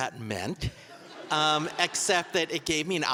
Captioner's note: audience laughing